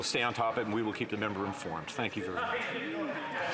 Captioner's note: some Applause